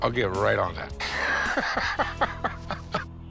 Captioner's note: Rick laughs